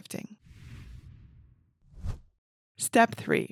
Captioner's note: image whooshes